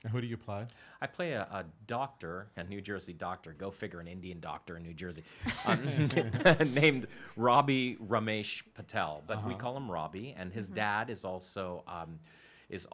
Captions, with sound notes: - And who do you play? - I play a doctor, a New Jersey doctor, go figure, an Indian doctor in New Jersey, (chuckles) named Robbie Rummesh Patel, but we call him Robbie and his dad is also a doctor,